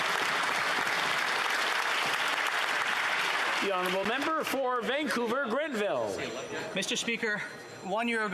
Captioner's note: some Applause; applause